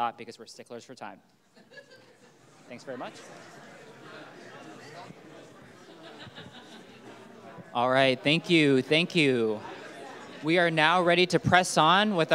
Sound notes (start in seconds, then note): 1.6 audience laughing; 3.9 audience faintly chatting; 5.9 audience member laughing